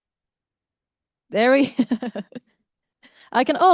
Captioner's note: laughter